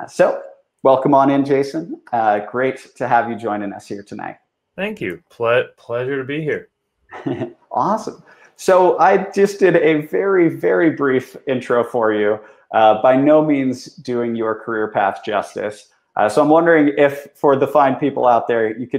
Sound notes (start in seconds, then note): 7.1 chuckles